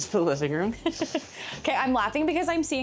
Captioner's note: chuckles